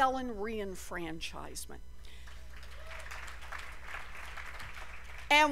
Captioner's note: cheers and applause